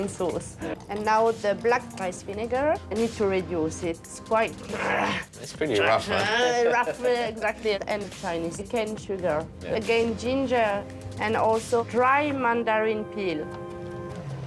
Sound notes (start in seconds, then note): 4.6 growls